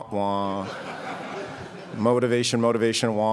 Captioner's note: crowd laughs